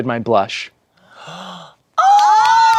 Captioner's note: gasps